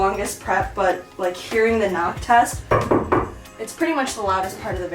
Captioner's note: knock, knock, knock